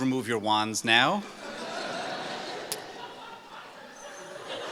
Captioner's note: laughing